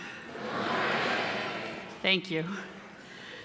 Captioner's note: crowd